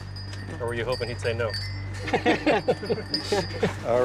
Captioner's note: laughter